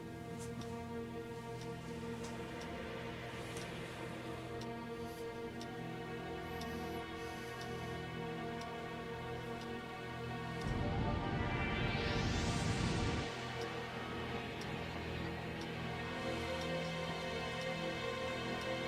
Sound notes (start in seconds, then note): 2.4 clock ticks rhythmically; 2.4 ominous music continues